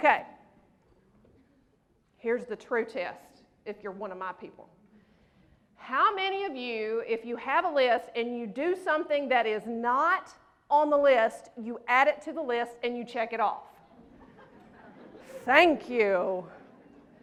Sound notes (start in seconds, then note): 13.9 laughter